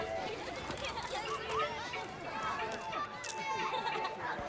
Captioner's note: children chattering and laughing; camera shutter clicks; child laughs